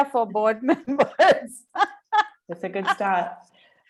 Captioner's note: laughs